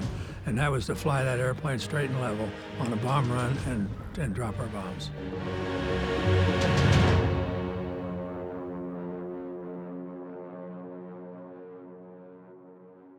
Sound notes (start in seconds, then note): 7.5 engines droning